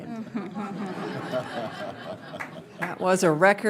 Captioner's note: laughter